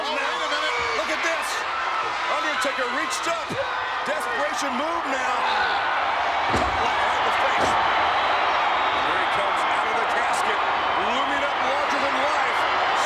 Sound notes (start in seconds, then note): 5.4 crowd cheering